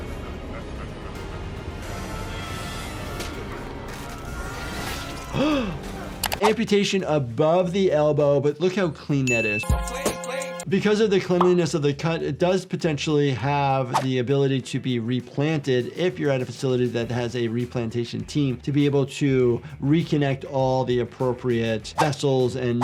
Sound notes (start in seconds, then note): 0.0 monster laughing maniacally; 2.7 dramatic music; 5.1 gasping; 6.2 screen clicking; 9.3 star chiming; 9.5 R&B music